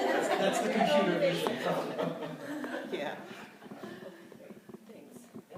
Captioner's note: laughter